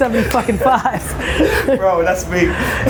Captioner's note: laughs